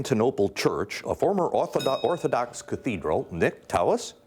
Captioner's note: bell dinging